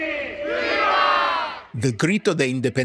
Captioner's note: crowd